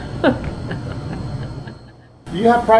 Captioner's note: laughs